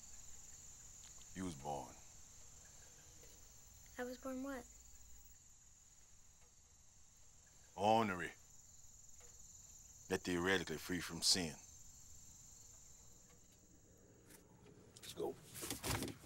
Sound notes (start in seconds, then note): none